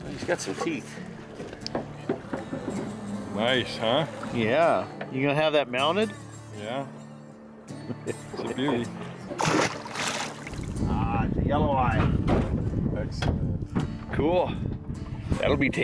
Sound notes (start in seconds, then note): 7.8 laughter